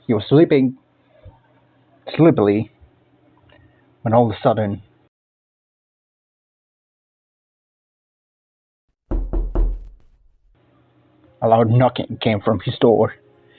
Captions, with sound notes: he was sleepin' sleepily when all-of-the sudden... *knock knock* a LOUD knocking came from his door...